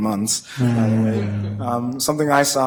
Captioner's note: board laughing